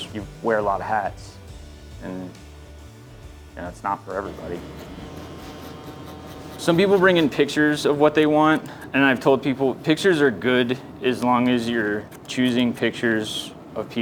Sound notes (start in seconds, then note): 4.4 razor buzzes